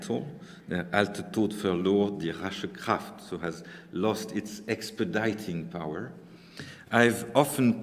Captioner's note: speaking german